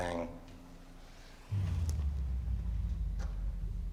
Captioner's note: distant thump